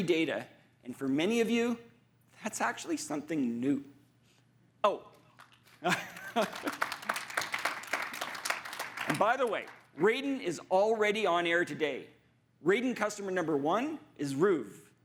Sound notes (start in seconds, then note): 5.3 audience applauding